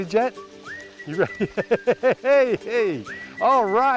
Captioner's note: laughter